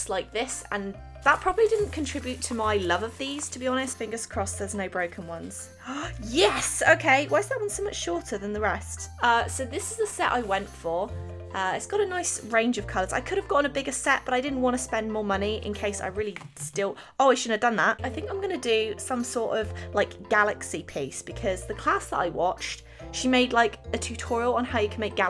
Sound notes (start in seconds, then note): 5.8 gasps